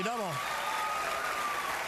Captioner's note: applause and cheering